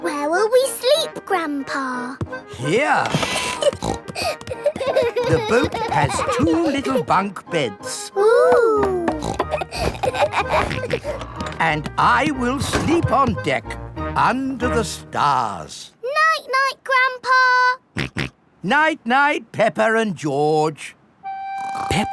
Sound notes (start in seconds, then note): 3.1 snorting; 3.4 kids giggling; 9.0 snorts, laughs; 18.1 snorts